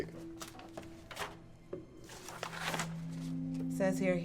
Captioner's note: papers rustling